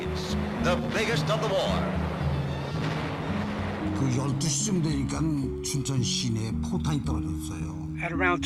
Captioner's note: soundbite of archived recording